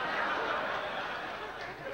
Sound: laughter

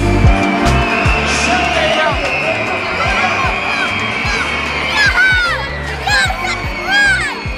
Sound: kids screaming

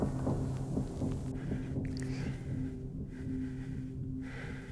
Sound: heavy breathing

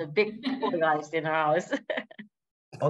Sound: laughter

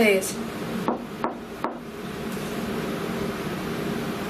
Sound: knocks

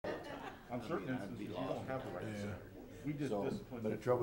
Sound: faintly speaking; crowd chattering

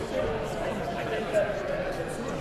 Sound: loud chatter from the crowd

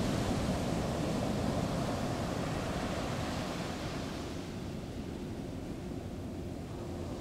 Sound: sounds of the harbor: wind, waves, the hum of a ferry motor

